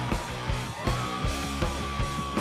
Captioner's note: audience cheering